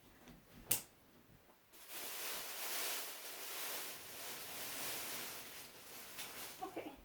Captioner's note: plastic bag rustling